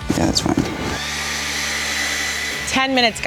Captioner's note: hairdryer whirring